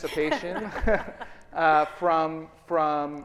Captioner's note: audience laughing